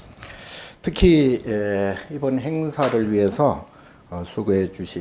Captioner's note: speaking Korean